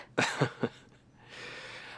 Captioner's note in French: rit nerveusement; rires